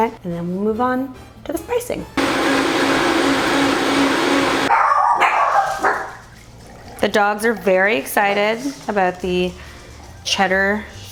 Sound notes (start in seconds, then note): 2.2 blender whirring; 4.5 dogs barking